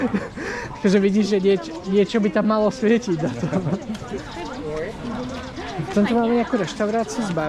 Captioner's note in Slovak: smiech